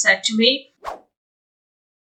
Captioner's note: woosh sound effect